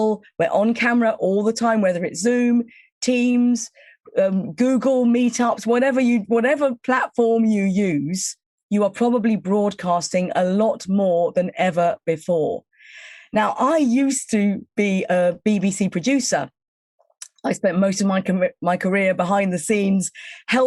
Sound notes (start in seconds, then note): none